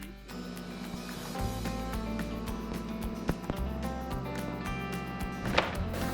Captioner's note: gentle music; machinery humming